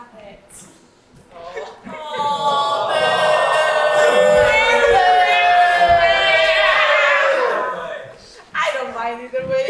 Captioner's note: audience awwws and boos